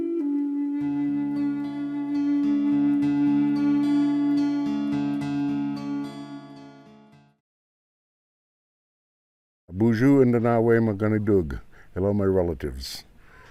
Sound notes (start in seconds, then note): 9.4 speaking ojibwe